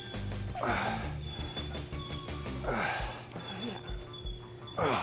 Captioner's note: Sheamus grunts